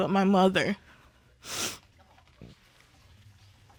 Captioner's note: sniffles